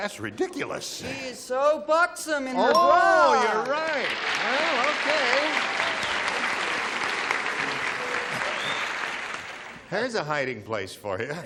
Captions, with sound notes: -I knew she was a buxom lady, but that's ridiculous. -She is so buxom in the bra. (ding) -Oh, you're right. Well, okay.